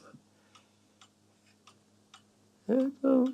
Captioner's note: tick-tock